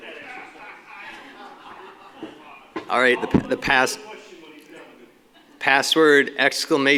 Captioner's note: laughter, Multiple Speakers